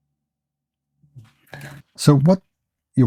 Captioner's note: silence